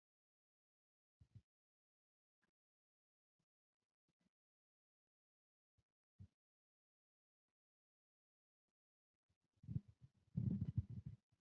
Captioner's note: pause